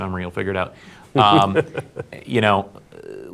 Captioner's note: laughing